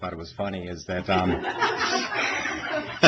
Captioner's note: laughs